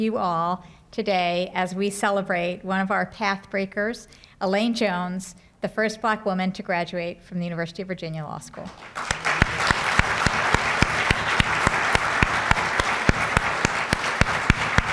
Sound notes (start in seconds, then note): 8.5 applause